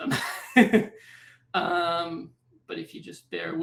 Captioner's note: laughter